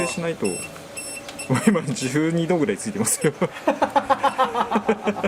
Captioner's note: laughs